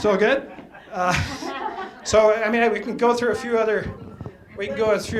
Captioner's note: laughter